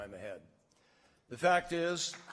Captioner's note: applause